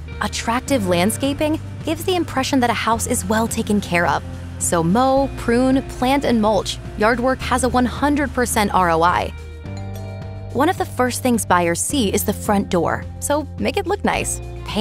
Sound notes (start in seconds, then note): 9.7 doorbell dings; 9.8 uplifting music